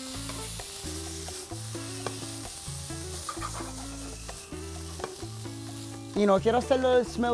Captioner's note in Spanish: chisporroteo